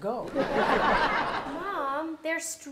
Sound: audience laughs

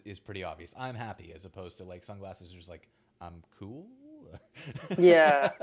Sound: laughs

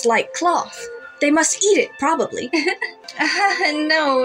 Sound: giggle

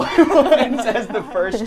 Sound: all laughing

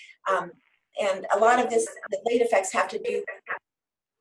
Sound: static noise

